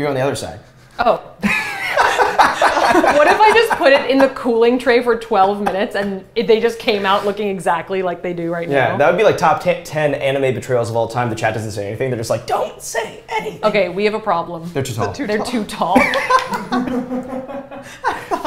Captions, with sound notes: You go on the other side. - Oh. (laughter) What if I just put it in the cooling tray for 12 minutes and they just came out looking exactly like they do right now. - Yeah, that'd be like top 10 animated betrayals of all time, the chat doesn't say anything. They're just like, don't say anything. - Okay, we have a problem. - They're too tall. - They're too tall. - They're too tall.